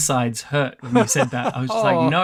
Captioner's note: laughs